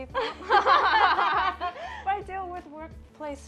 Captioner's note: laughs